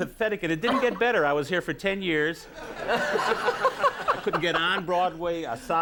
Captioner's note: audience laughs